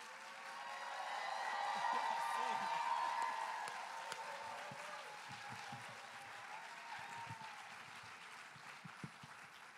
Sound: applause and cheering

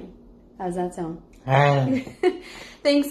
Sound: laughs

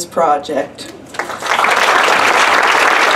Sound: applause

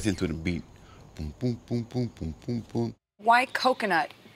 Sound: imitates drum beat

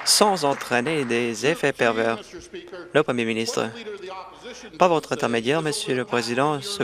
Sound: applause

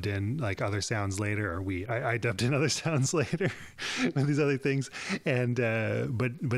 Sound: laughs

